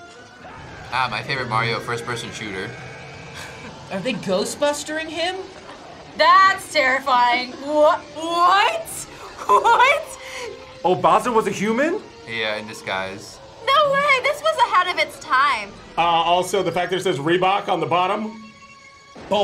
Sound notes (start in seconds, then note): 8.9 laughs